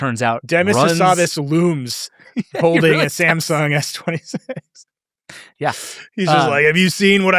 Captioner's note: laughs